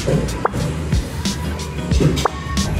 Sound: transition whooshing; button popping

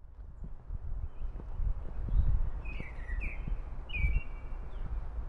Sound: birds chirping

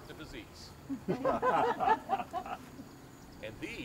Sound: laughter

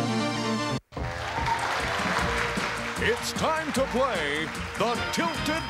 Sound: applause

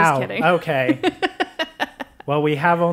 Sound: laugh

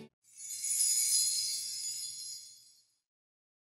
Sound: tinkling sound

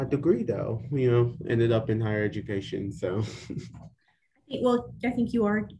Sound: laughs

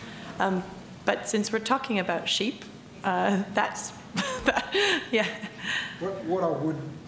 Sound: laughs

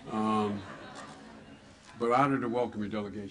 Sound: laughter

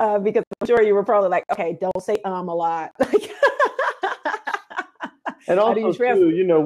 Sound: laughs

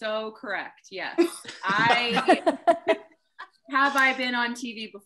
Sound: laughs

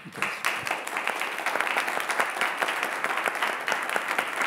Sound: audience applauding

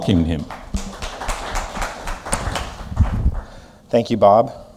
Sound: applause

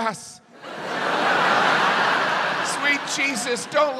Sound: audience laughs

